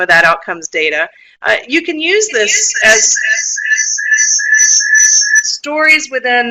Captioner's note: feedback